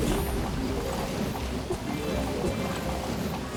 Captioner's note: explosive sounds